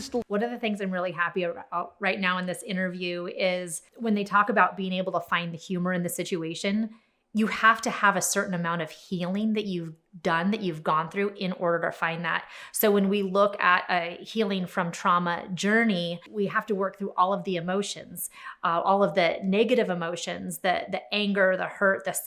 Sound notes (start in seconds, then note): none